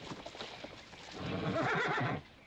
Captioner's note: horse neighing